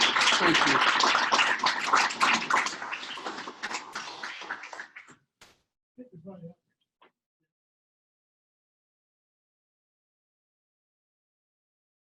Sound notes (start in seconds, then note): 0.0 audience applauds